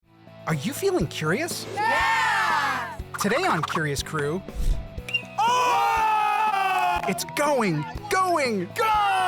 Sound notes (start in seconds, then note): 5.0 ball hits bat; 5.2 people cheer